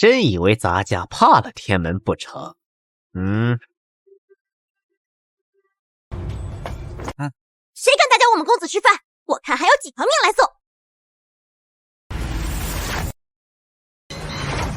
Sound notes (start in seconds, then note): 3.2 grunts